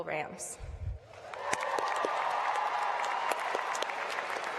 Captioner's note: applause